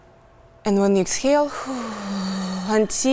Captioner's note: inhales; exhales